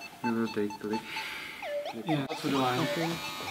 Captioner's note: discussing in czech language